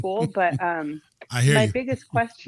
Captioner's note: laughter